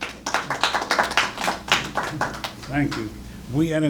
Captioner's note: applause